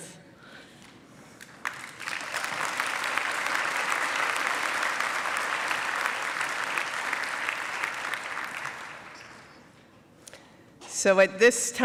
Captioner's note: applause